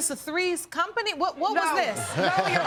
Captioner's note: laughing